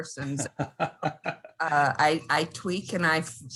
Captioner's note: laughing